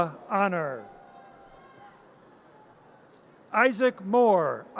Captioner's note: audience cheers